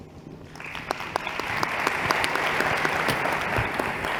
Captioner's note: applause